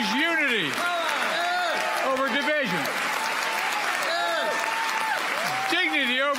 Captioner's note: applause